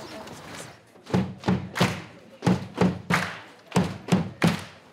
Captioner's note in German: Die Studenten klatschen und stampfen im Rhythmus